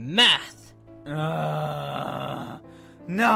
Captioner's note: exaggerated sigh